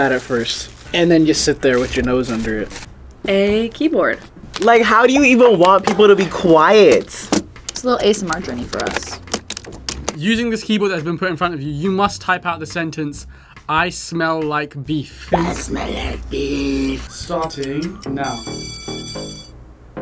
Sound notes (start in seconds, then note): 15.4 raspy; 17.3 bell rings